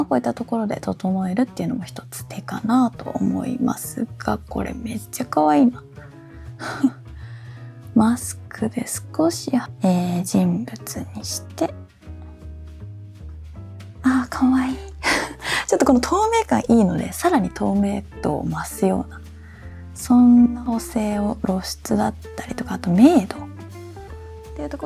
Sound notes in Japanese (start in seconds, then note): 8.1 ため息; 9.7 息をのむ音